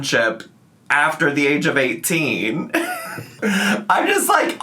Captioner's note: laughs